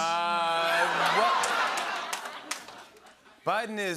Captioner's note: laughter